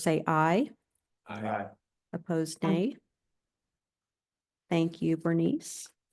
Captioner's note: chorus of ayes